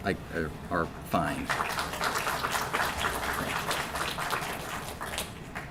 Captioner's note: applause